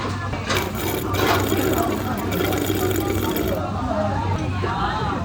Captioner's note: sound of drink being sucked